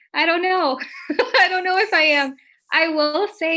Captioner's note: chuckles